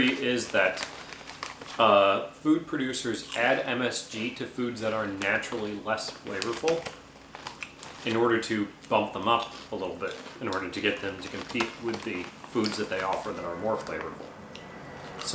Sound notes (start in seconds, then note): none